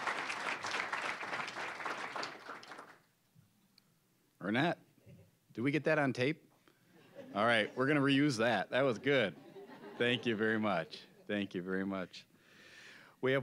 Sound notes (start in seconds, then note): 0.0 applause; 7.0 audience chuckling; 9.0 audience laughing